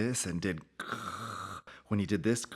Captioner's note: hisses